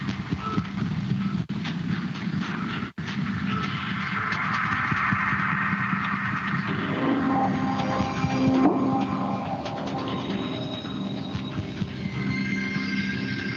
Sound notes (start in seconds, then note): 3.3 beeping